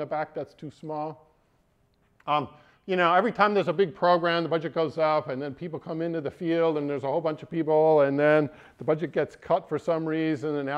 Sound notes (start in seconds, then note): none